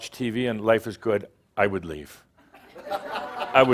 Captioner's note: laughter